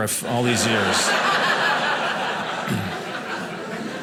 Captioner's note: audience laughing